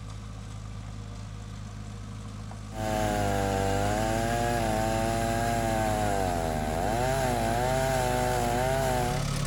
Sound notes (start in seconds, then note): 2.7 chainsaw whirring